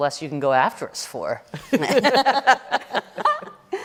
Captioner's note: laughter